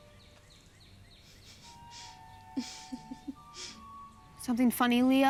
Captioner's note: chuckles